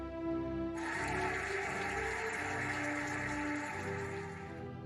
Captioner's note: cheering and applauding